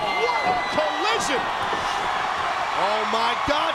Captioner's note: crowd cheering